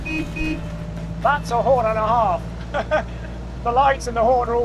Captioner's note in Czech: troubení auta; směje se